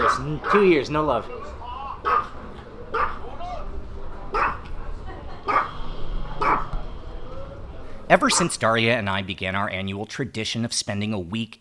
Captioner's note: dog barking; dog barking